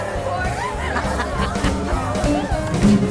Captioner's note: laughing